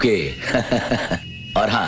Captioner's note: Laughs